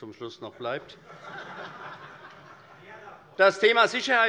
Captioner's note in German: Heiterkeit